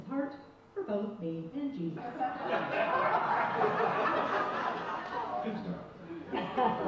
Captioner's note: audience laughs